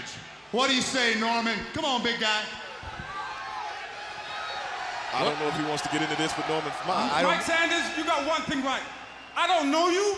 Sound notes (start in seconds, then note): 7.2 crowd chatter